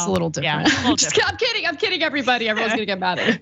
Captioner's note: laugh